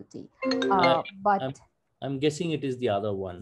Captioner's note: cellphone rings